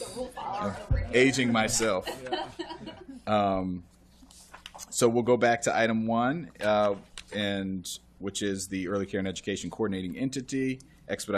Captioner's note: laughter